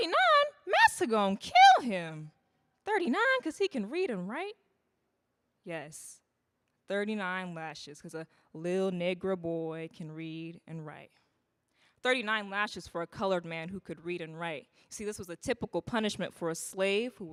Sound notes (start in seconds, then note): none